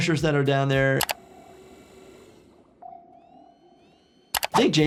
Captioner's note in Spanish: chasquido del teclado